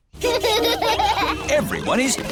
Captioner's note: children laughing